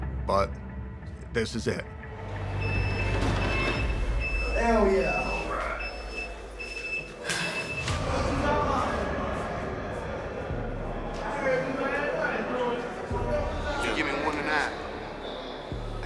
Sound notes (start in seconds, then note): 2.4 alarm blaring; 8.2 inmates chattering indistinctly